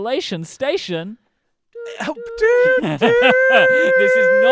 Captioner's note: laughs